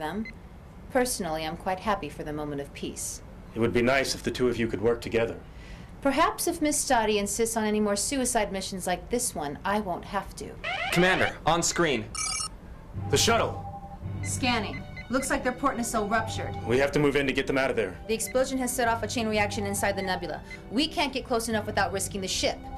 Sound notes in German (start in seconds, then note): 12.1 Alarm